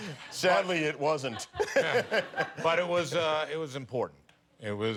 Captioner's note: light laughter